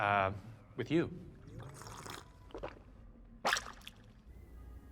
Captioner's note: slurp, gulp